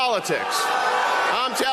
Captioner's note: audience booing